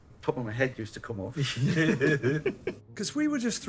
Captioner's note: both Laughing